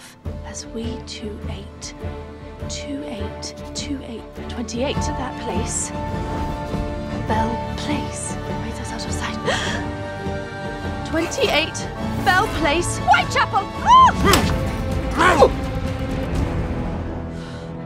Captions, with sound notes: "As we two ate." Two ate... Two eight, 28! "Under that place." Bell Place. (murmuring to self) (gasp) 28 Bell Place Whitechapel! Ah! (grunting) (dramatic music swells)